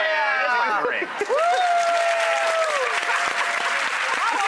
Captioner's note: applause